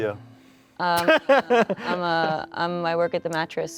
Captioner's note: laughing